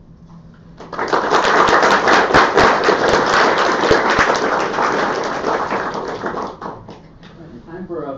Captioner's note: audience clapping